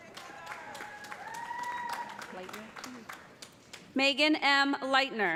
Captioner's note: cheers and applause